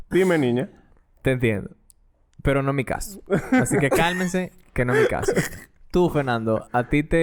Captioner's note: laughs; laughs